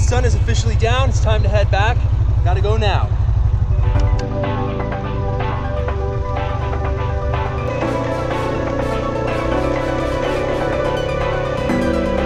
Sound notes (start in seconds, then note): 3.8 upbeat electronic music; 7.7 ATV engine humming